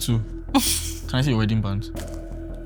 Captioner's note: laughs